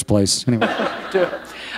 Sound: laughter

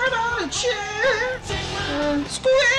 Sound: nasally voice; moaning; nasally voice

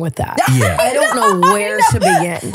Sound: laughing

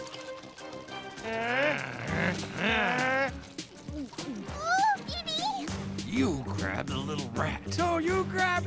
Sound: growling

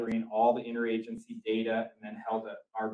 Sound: none

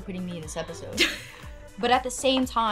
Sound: laughs

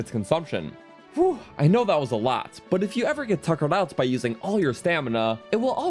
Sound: phew

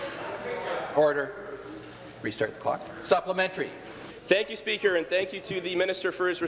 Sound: conversation din

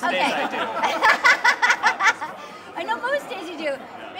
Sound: laughter

